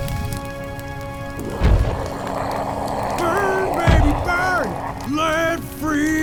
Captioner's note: Iron Golem growls victoriously; singing